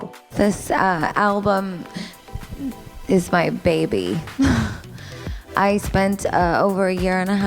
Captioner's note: laughs